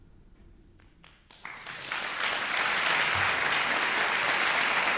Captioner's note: audience applauding